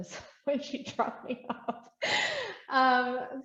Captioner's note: laughs